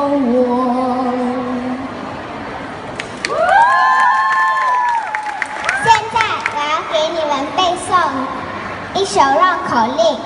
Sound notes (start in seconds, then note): 3.0 applause; 3.2 欢呼声